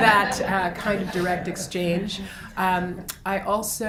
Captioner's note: laughs